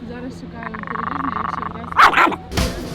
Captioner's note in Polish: warczenie, szczekanie